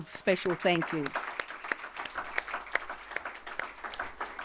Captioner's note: audience applauding